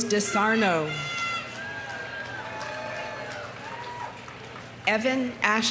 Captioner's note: audience cheering; audience applauding